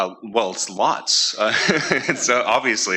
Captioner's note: chuckling